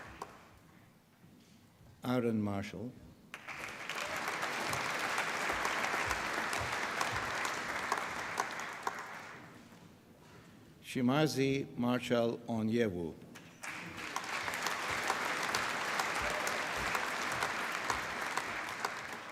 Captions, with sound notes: Aaron Marshall. (APPLAUSE) Chimaeze Marcel Onyeiwu. (APPLAUSE)